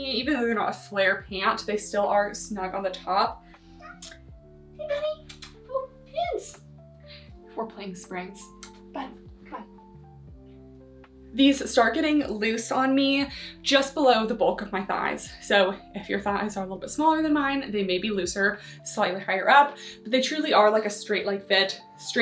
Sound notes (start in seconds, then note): 3.8 cat meows